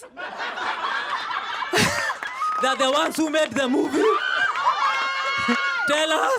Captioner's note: laughter